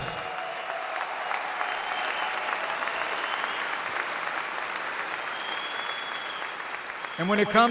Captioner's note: applause